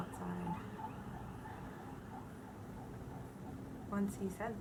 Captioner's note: loud siren noise; sirens fade